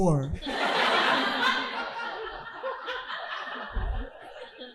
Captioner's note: audience laughing